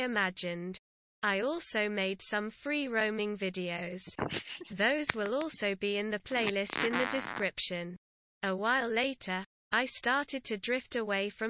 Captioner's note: random laugh accidentally left in